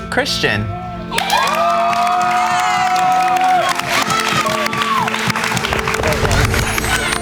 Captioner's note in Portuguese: Aplausos